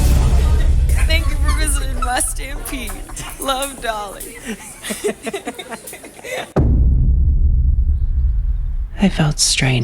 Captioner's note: laughter